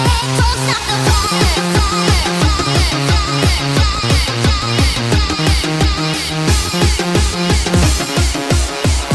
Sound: echo

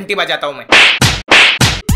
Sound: punches sound

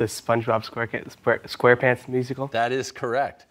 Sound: stammering

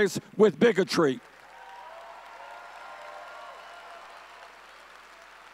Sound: audience cheering

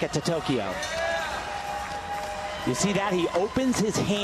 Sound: audience cheers

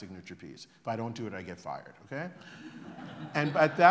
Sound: laughter

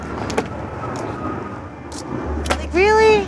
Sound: airplane engine overhead

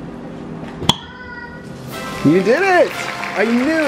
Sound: lid popping; triumphant music

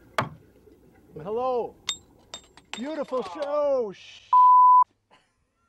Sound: clinkity clink

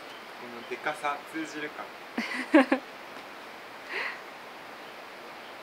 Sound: laughs

